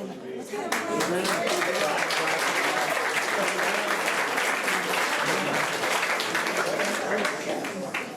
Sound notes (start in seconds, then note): 0.6 applause